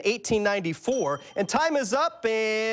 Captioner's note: bell dings